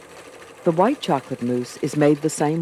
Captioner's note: voiceover